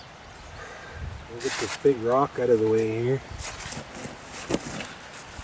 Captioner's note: deep breath